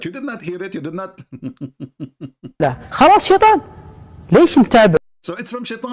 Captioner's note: Ketawa